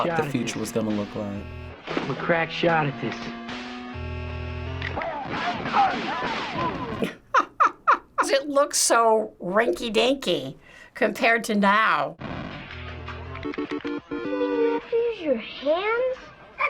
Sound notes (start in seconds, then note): 4.6 game characters grunting; 6.4 laughs; 16.4 laughs